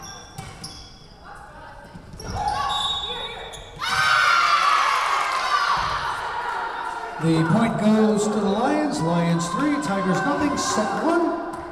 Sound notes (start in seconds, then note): 2.5 whistle blowing; 3.9 Lions cheering